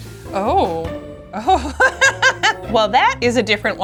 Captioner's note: laughs